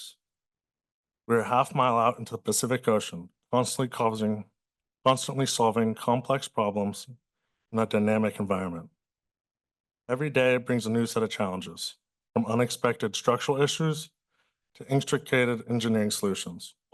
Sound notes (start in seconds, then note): 0.2 pause; 9.0 pause